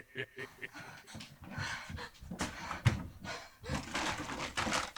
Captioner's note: leprechaun laughing; Tilly gasping